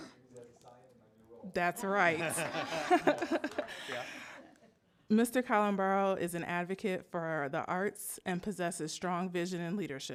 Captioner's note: laughter